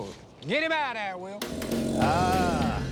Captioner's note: growling